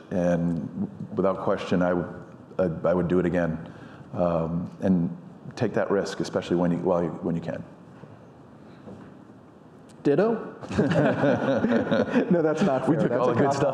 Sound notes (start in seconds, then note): 10.7 audience laughing